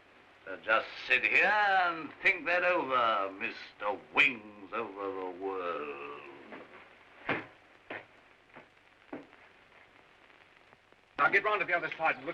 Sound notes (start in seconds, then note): 6.6 mocking tone